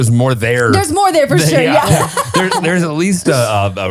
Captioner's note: laughs